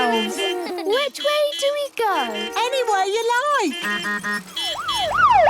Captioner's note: laughter; honking, siren wailing